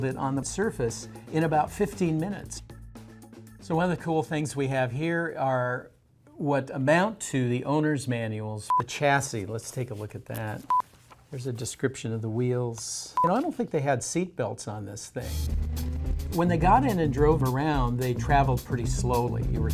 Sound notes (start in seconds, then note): 10.7 beep; 13.1 beep